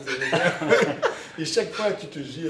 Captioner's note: laughters